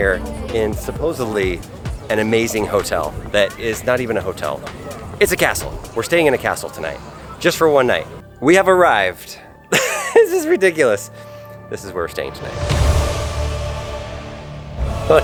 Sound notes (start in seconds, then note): 9.7 laughs; 12.9 dramatic music